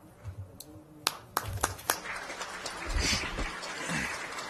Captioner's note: applause